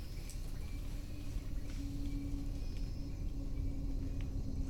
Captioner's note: low rumble